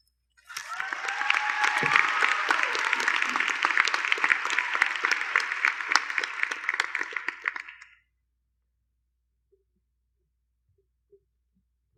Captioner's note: applause